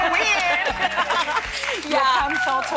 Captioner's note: cheering